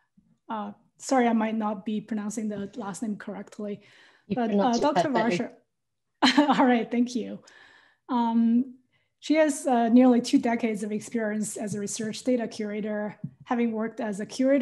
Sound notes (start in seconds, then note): 4.4 laugh